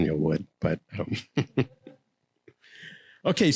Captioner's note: laughing